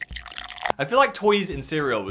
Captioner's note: milk burbling